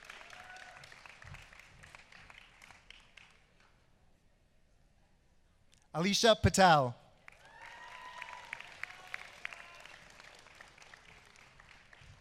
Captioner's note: applause